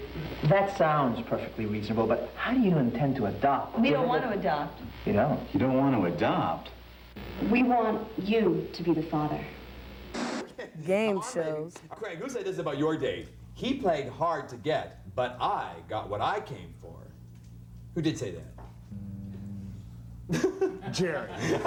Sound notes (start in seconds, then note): 9.5 static noise; 20.3 laughter